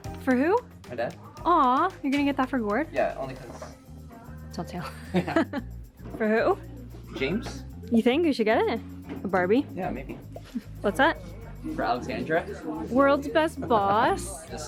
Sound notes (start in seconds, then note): 4.8 laughing